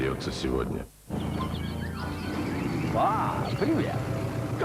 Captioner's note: motor noise